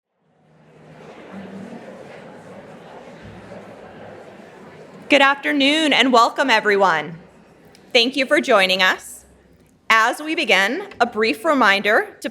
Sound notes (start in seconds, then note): 3.6 audience chattering